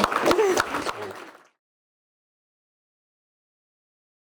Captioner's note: audience applauding